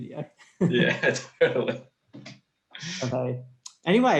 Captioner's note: both laughing